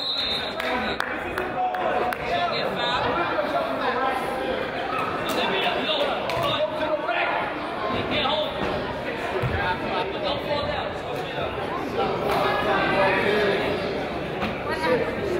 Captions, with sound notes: (whistle blows) (person claps) - Ref, you can't hold him. (crowd chatters)